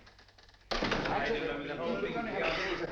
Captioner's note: clamoring continues